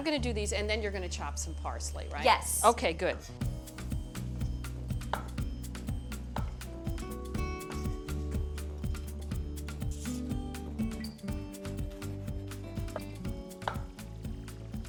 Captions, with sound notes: I'm going to do these, and then you're going to chop some parsley, right? - Yes. - Okay, good. (upbeat music) (knives chopping)